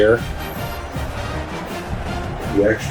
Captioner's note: crowd Noises